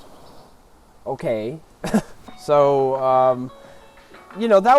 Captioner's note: scoffs